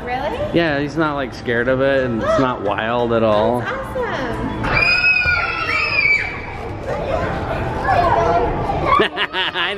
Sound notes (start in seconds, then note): 6.1 yelling